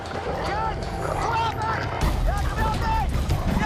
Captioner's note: screaming